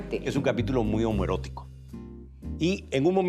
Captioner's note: speaking Spanish